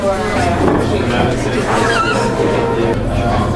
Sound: squeak

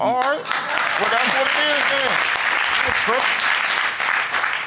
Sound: audience applauding

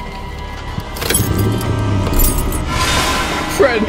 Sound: keys clunking; van revs; dramatic music

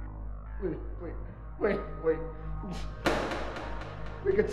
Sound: groans; echoing crack

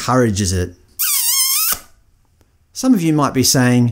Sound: sound of kissing

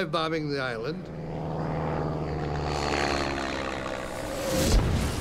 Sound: bomber engines rumbling; bomb exploding

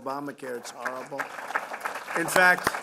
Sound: applause

